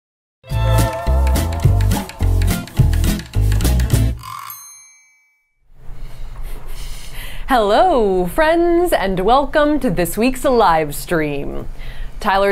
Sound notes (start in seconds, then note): 0.4 upbeat music playing; 3.3 upbeat music continues; 4.2 bell dings